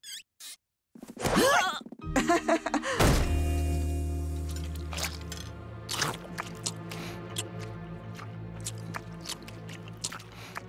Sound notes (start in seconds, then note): 1.1 grunt; 2.1 nervous chuckle